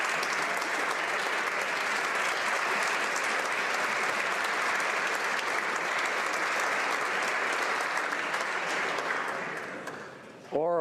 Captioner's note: applause